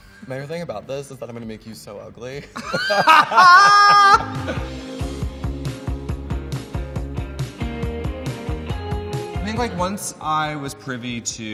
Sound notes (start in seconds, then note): 2.6 laughs loudly; 5.0 upbeat music